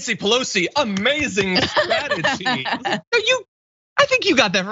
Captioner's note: laugh